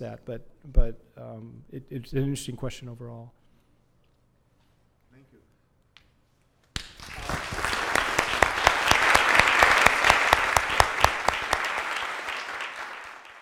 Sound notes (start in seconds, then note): 6.7 applause